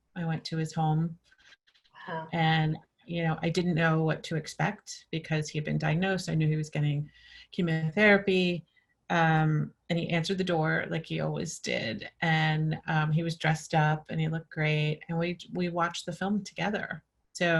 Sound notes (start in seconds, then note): none